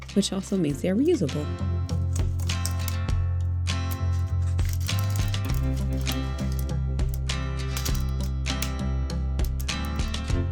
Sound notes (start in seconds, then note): 1.8 easy listening song rises; 1.8 silicone crackles and snaps